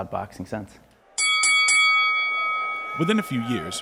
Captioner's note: bell dings